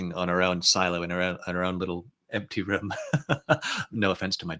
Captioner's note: chuckles